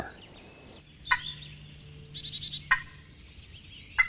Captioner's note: turkey call